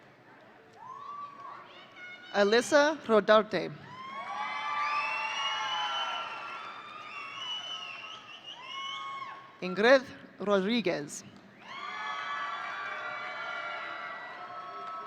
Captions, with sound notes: Alyssa Rotarte. (audience cheering) Ingrid Rodriguez. (audience cheering)